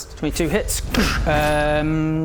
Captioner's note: goosh!